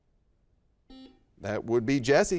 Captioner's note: buzzer dings